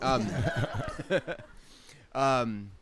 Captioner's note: laughs